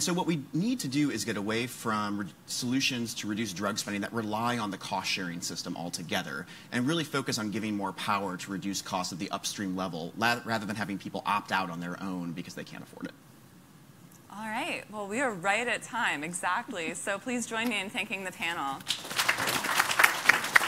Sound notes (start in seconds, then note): 18.8 applause